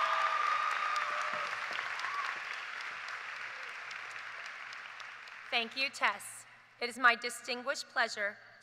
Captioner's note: cheers and applause